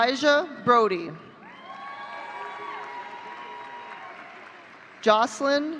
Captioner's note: audience cheering